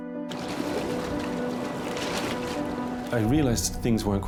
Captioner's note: water splashing